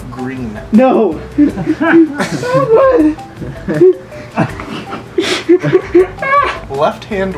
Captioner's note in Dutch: Gelach